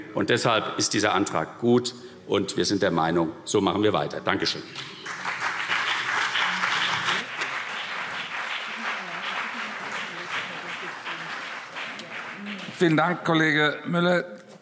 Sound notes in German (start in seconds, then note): 5.3 Beifall CDU und BÜNDNIS 90/DIE GRÜNEN